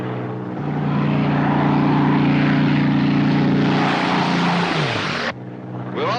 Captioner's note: aircraft roars